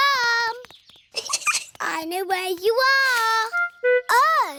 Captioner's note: giggles